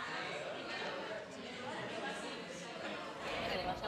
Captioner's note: Beszélgetés